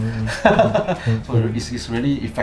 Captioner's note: laughs